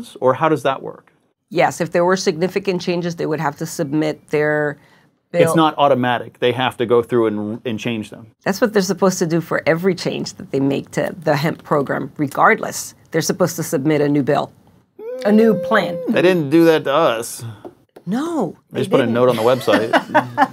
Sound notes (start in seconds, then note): 14.9 questioning sound; 19.2 laughing